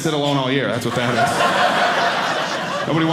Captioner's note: audience laughing